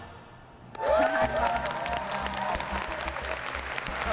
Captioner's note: applause and cheering